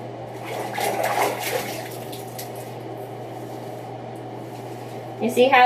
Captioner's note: water swishing